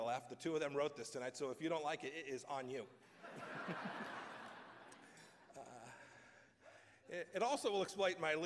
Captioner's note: laughter